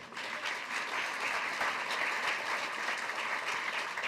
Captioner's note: applause